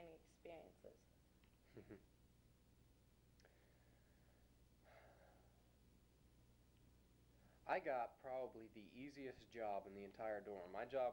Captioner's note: chuckles